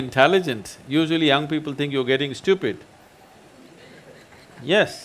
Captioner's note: few Laugh